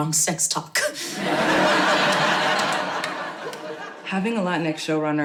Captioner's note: audience laughing